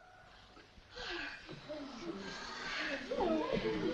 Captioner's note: audience gasps; audience chatters